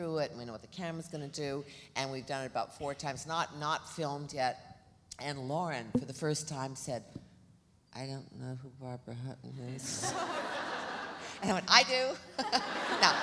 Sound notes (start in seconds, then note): 10.0 audience laughs; 12.5 laughs